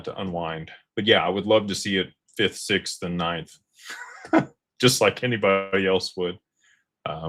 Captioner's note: laughter